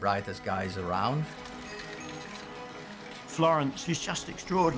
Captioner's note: bicycle bell rings